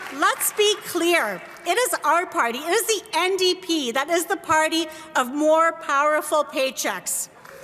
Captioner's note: applause